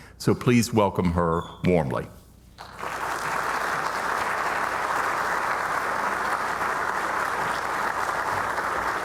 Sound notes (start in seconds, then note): 2.6 audience applauding